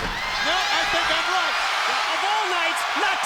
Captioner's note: crowd cheers